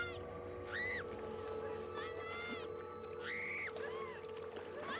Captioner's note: screaming